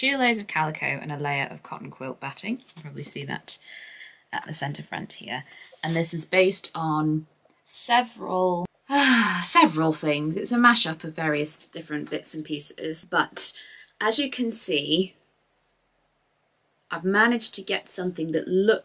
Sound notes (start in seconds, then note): 8.1 sighs